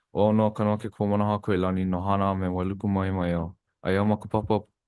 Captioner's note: speaks Hawaiian